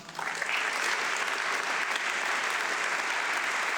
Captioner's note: audience clapping